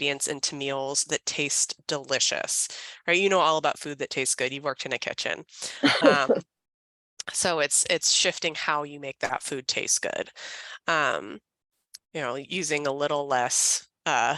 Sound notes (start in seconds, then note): 5.8 laughing